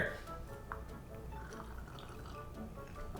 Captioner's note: slurping